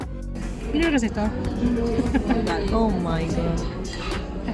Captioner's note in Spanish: risas